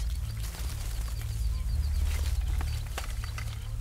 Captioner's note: dogs barking